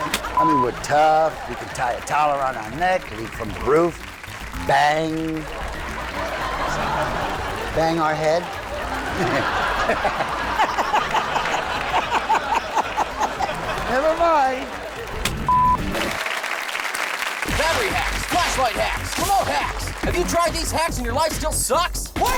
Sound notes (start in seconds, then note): 5.6 audience laughs; 9.3 laughs; 15.4 beep; 16.6 audience applauds